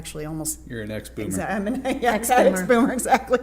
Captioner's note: laughter